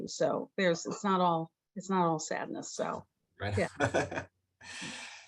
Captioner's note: laughs